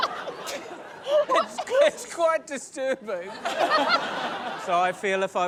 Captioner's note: laughter